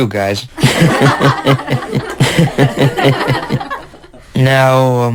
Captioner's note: everyone laughs heartily